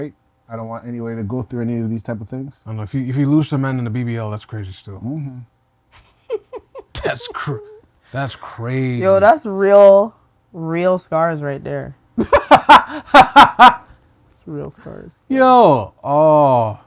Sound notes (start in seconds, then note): 6.0 laughing; 12.2 laughing